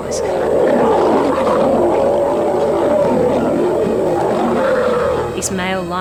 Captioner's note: roars